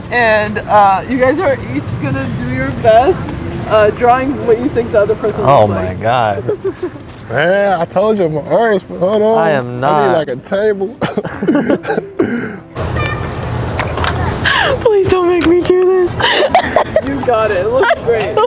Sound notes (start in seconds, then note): 11.0 both chuckle; 16.0 laughing